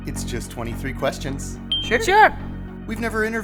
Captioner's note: bell dinging